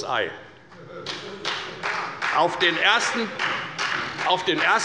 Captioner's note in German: Beifall bei der FDP und bei Abgeordneten der SPD